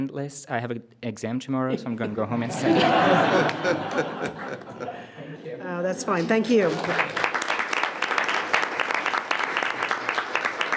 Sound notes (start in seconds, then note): 3.3 everyone laughs; 6.1 everyone applauds